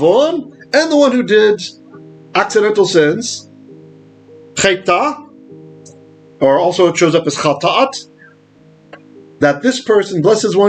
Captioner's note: Hebrew; Hebrew